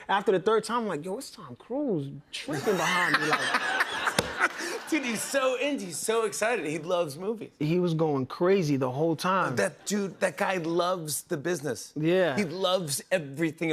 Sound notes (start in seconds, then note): 2.5 laughter